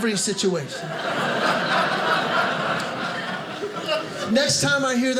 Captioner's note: audience laughing